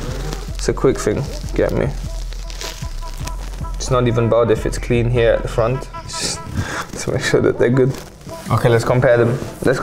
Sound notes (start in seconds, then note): 6.4 sucks teeth